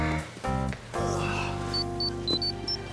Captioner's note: beeping